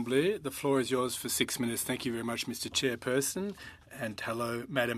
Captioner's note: speaking French